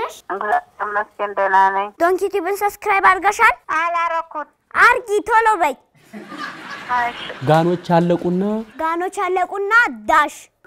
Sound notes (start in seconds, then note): 6.0 laughter